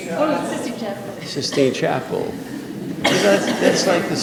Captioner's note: audience laughing